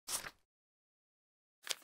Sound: opening paper sound effect

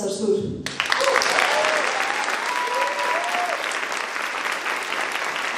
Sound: audience applauding

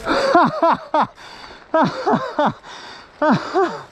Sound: laughing

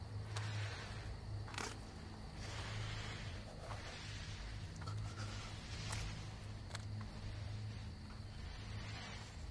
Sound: breathing Fades

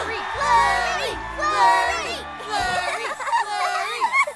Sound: giggling

